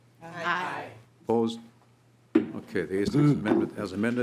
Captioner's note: chorus of ayes